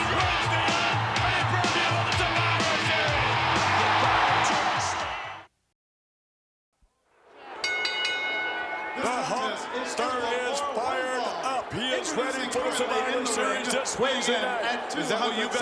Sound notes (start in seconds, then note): 3.9 crowd cheering; 7.5 bell ringing